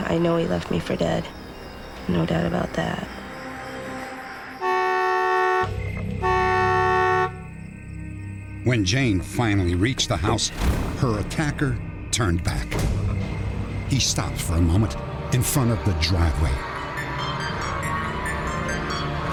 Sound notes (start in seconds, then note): 4.5 car horn honking; 12.7 boom; 16.3 ominous music